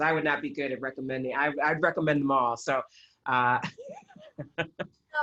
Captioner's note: laughter